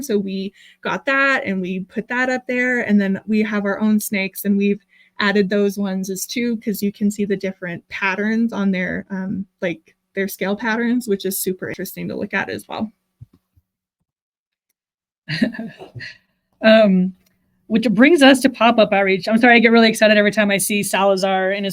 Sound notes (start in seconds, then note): 15.3 laughs